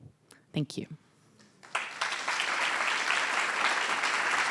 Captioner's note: applause